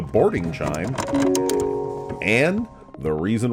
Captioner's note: chimes